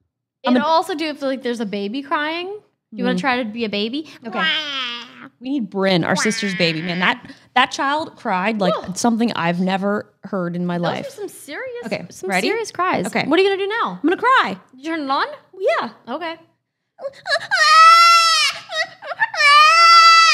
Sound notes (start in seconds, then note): 6.1 crying; 17.0 crying